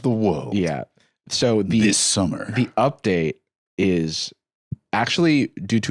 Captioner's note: announcer voice